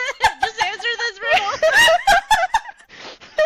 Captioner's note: laughter